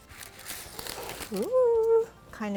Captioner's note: parchment crinkling